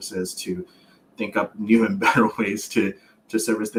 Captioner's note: laughs